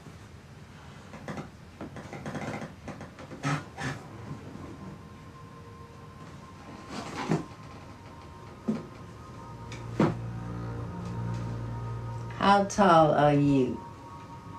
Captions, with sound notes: (floor creaking) (suspenseful music) How tall are you?